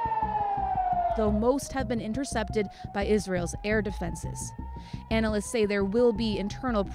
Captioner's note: sirens